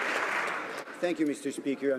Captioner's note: some Applause